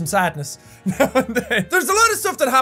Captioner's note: laughs